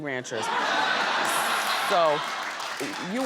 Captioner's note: audience laughs